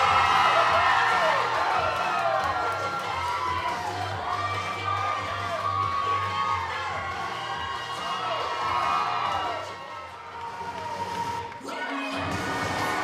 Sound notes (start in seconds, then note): 1.6 crowd cheering